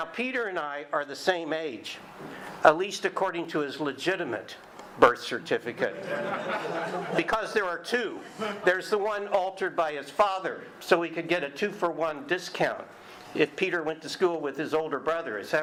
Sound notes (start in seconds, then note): 5.9 audience laughing